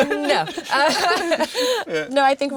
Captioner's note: laughing